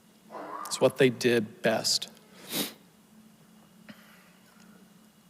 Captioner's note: sniffles